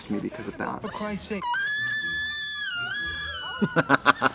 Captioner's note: Elle screams; Katya laughs